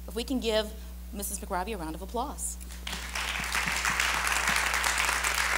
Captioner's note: crowd applauds